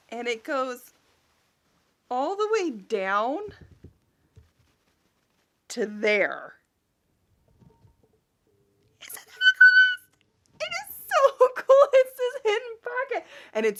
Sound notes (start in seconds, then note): 10.0 squealing